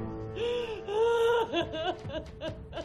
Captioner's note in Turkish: Ağlama sesi